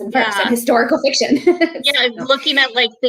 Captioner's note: laughing